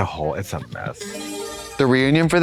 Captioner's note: bright chime